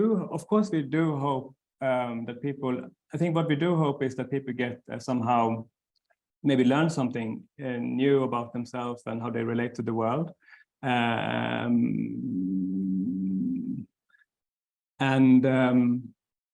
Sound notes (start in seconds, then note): 11.0 stammering